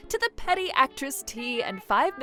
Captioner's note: none